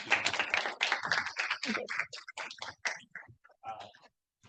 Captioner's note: audience applauding